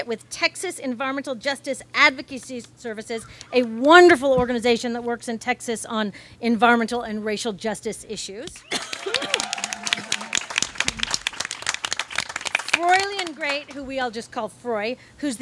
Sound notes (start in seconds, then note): 8.5 audience claps and cheers